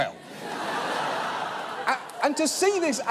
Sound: audience laughs

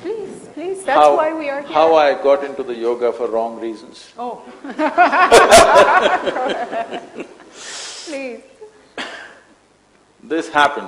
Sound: laughter

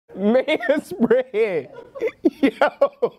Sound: laughing

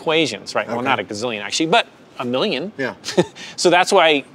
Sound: laughs

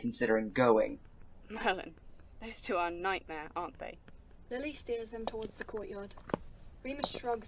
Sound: footsteps

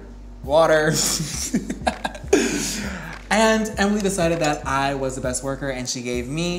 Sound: laughs

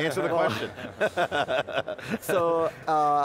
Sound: laughs

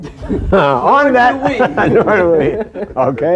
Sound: laughter

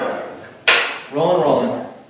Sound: clapboard snapping

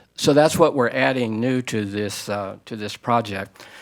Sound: none

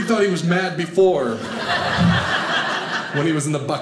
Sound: audience laughing

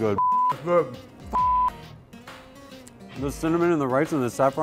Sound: beeps

